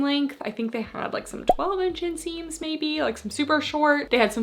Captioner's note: graphics beeping